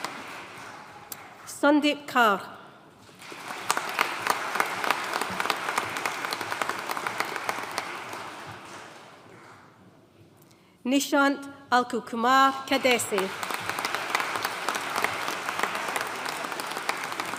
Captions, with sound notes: Sandeep Kaur. (AUDIENCE APPLAUDING) Nishant Anilkumar Khadse. (AUDIENCE APPLAUDING)